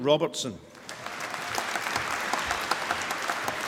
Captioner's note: applause